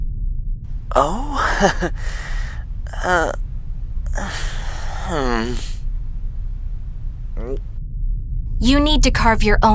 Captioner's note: chuckling awkward